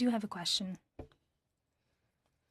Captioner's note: speaking French